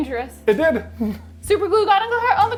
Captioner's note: laughing